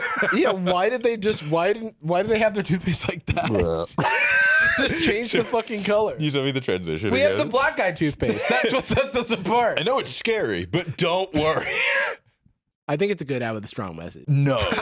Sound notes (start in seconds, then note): 3.2 laughs